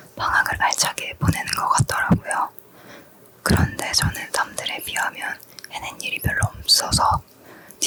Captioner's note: none